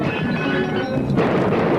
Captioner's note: tense music continues; glass shattering; gunshots ringing out